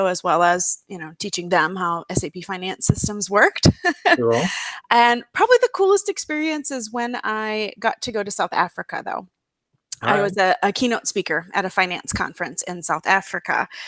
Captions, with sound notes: as well as teaching them how SAP finance systems worked. [chuckles] Probably the coolest experience is when I got to go to South Africa though. I was a keynote speaker at a finance conference in South Africa.